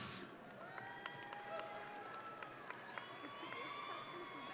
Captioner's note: audience cheering